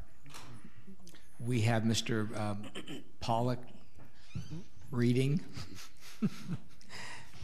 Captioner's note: laughing